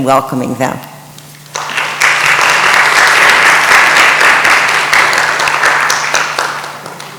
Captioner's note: audience applauds